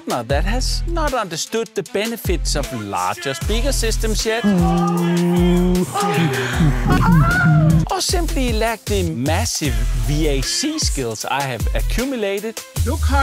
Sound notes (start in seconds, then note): 4.4 woman lustfullly moaning